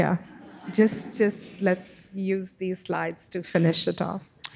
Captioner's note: audience chuckling